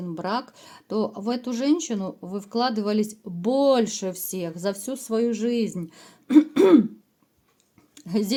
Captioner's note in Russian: откашливается